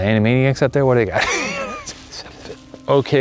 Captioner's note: laughs